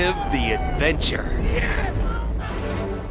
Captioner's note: coaster whooshing; dramatic music